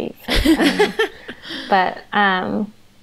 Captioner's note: they laugh